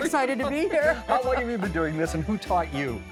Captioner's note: laughs